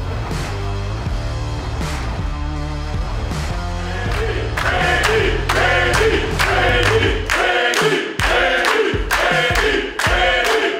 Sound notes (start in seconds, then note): 0.0 heavy rock music playing; 3.8 crowd chanting